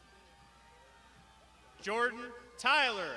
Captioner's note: crowd shouting